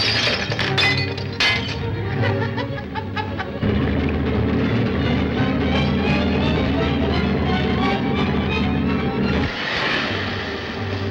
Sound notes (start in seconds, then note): 2.0 Joe laughs